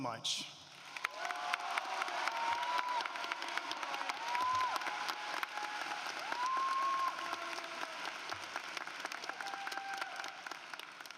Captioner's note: applause